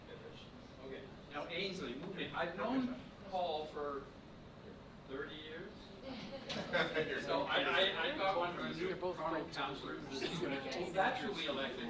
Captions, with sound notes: Okay, now Ainslie, I've known Paul for 30 years. (laughter) (murmuring)